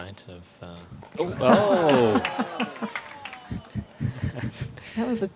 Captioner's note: laughs